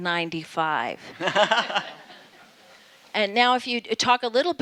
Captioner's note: everyone laughing